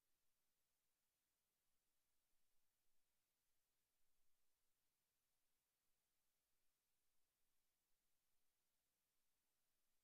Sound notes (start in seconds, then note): none